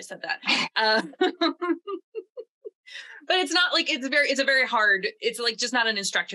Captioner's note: laughs